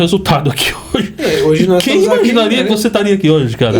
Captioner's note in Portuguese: risadas